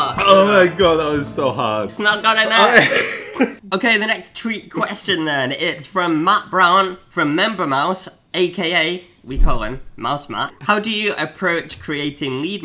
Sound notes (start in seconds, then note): 2.5 laughs